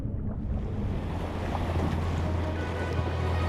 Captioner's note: water sloshes; upbeat music